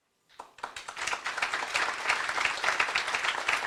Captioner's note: applause